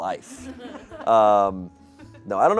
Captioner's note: audience laughing